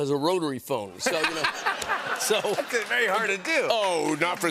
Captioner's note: laughter